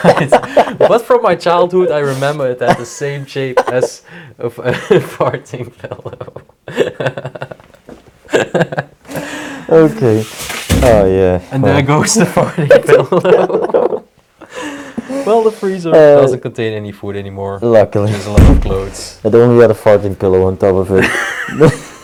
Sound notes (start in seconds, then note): 2.5 laughing; 2.6 both laughing